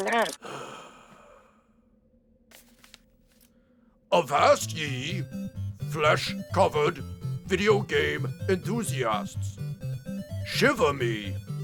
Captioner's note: sighing